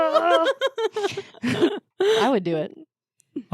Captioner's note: laughing